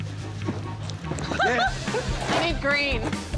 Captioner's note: laughs